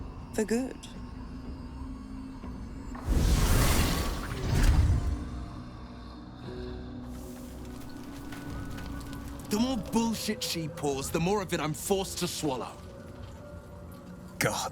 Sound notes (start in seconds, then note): 2.9 fire flaring